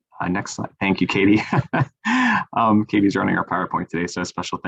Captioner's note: laughs